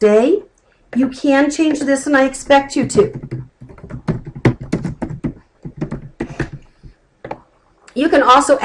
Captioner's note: typing